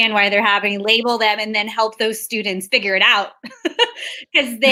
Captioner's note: laughs